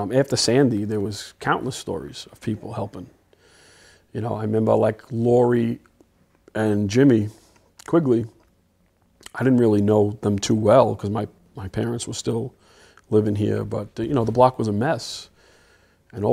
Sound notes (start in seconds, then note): none